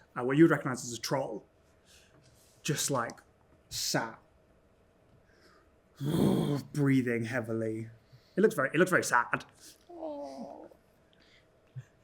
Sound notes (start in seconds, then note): 6.0 huffs